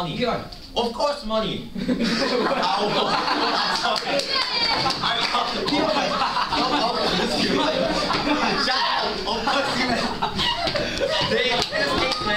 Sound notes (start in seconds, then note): 2.7 laughter and Derisive Cheering